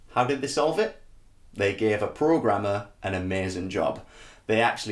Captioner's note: none